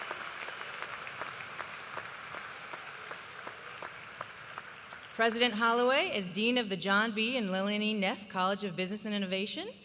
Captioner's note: cheers and applause